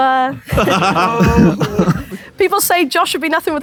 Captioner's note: Josh laughs